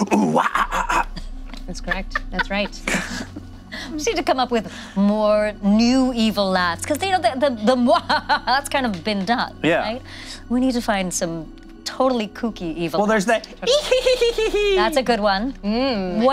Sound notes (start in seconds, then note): 7.8 maniacal cackling; 13.6 gleeful giggling